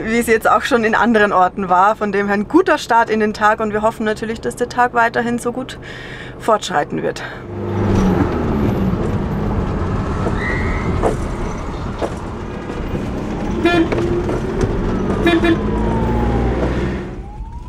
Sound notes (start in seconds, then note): 15.2 whistle and horn honking